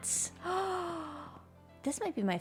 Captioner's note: gasps